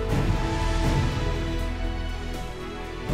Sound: mouthing

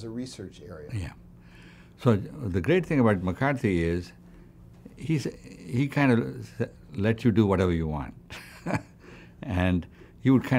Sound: laughs

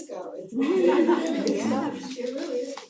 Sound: laugh

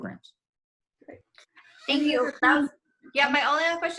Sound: speaks faintly

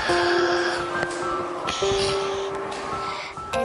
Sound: baby sigh

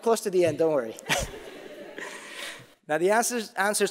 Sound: audience laughing

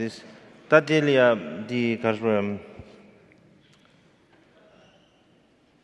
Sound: speaking in foreign language

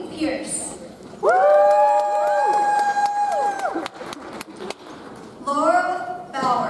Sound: audience cheers; audience applauds

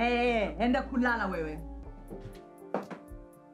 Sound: speaks in foreign language

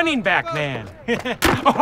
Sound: chuckles

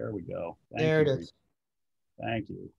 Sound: sharp Voice

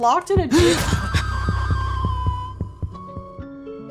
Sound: John Gasps, Woman Screams

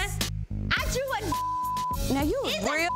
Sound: beep

